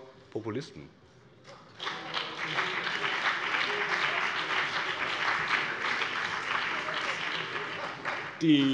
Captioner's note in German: Beifall BÜNDNIS 90/DIE GRÜNEN und vereinzelt CDU - Vereinzeltes Lachen AfD